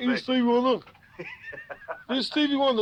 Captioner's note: laughing